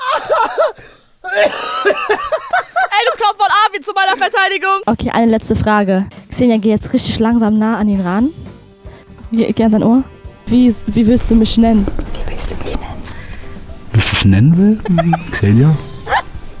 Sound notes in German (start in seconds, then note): 1.2 Husten